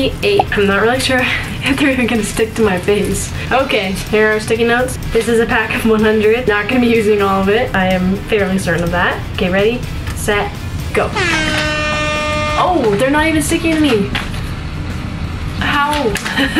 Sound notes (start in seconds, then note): 11.1 horns blaring